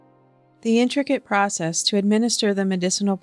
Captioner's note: voiceover